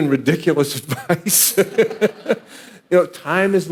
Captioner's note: audience laughing